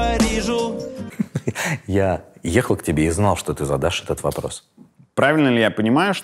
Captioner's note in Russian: смеясь